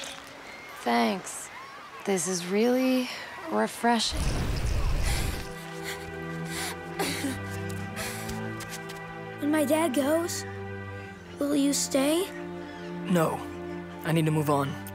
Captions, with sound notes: Thanks. This is really... refreshing. [crying] When my dad goes... will you stay? No, I need to move on.